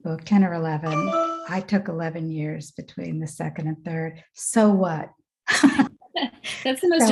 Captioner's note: phone beeps; chuckles; laughs